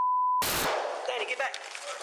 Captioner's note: gunshots